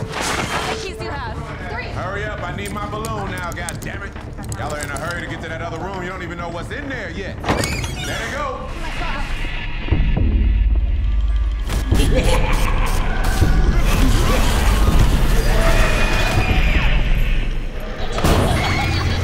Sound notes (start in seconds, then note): 7.3 door creaks; 9.7 creepy music; 11.6 scary laughs; 16.9 screams